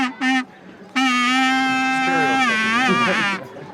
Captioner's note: non-english speech